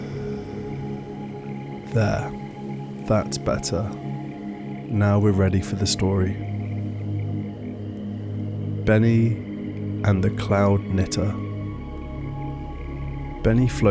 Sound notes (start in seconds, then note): 1.8 exhale